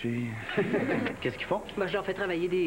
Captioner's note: Rires